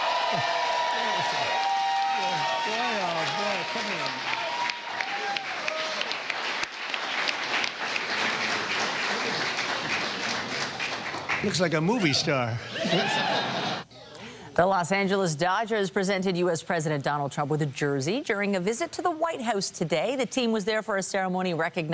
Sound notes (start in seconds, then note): 4.0 cheering